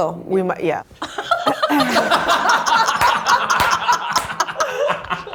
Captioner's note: everyone laughs